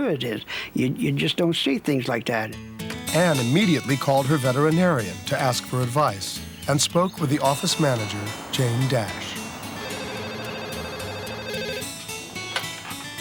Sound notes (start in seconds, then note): 10.2 phone rings